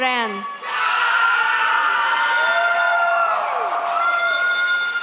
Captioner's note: audience cheers